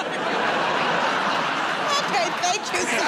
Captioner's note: laughter and applause